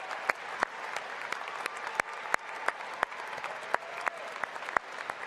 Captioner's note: applause